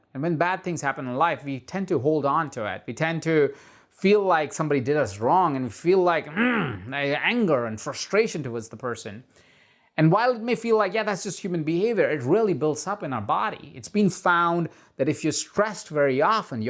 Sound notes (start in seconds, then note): 6.2 groans